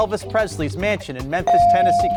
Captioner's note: bell rings